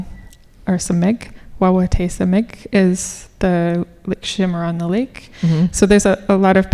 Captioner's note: speaking Ojibwe